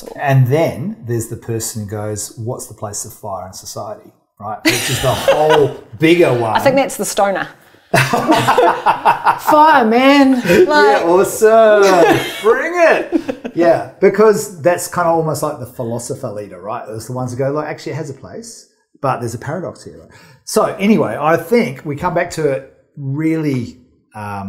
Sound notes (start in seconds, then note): 4.6 laughs; 7.9 laughing; 12.7 laughing